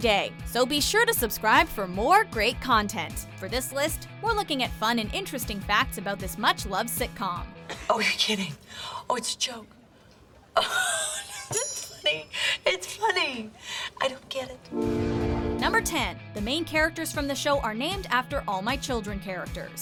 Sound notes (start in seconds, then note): 10.5 laughing